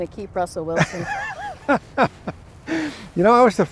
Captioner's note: laughing